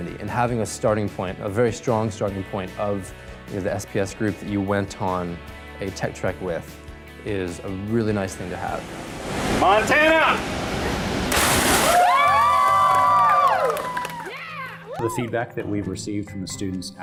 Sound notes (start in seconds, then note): 11.7 cheering